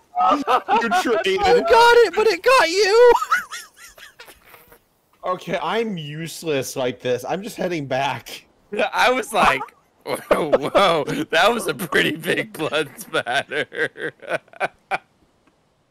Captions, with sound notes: You traded blows! You got it.... but it got you! *laughter* Okay, I'm useless like this, I'm just heading... I was like... Whoa... That was a pretty big blood splatter... *laughter*